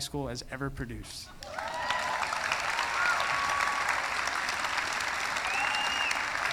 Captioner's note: applause; cheering